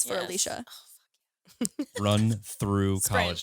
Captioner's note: whispers